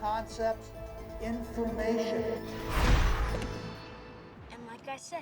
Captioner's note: whooshes